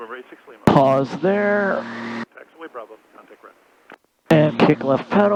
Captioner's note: radio chattering